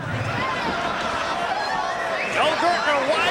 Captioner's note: crowd laughing